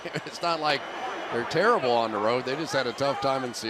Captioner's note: chuckles